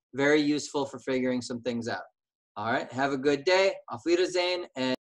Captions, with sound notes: very useful for figuring some things out. All right, have a good day. [SPEAKING GERMAN]